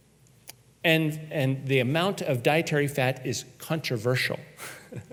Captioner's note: chuckles